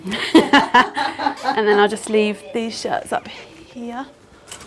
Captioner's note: laughter